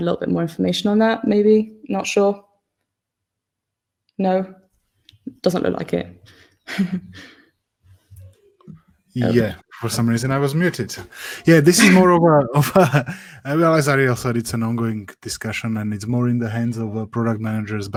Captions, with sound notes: more information on that maybe not sure. No, doesn't look like it. (chuckles) - Yeah, for some reason I was muted. Yeah this is more of a (chuckles) I realized that this also an on going discussion and it's more in the hands of our product managers